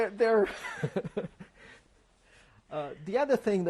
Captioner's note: laughs